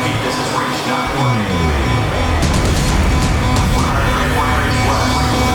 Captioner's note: emergency beeping sounds